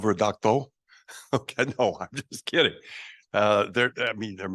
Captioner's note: laughing